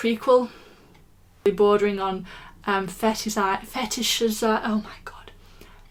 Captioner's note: whispers